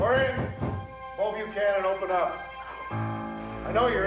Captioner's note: knock on door